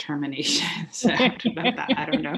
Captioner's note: laughter